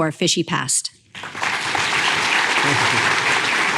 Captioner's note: applause